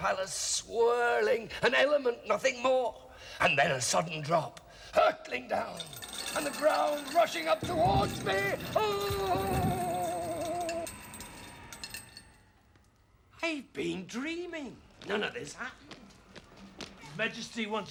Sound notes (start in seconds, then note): 10.2 groaning; 12.2 coins tinkling